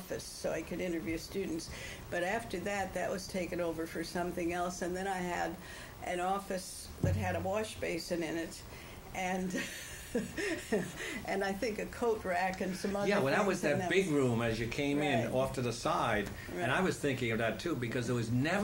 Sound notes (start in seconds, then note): 9.6 laughs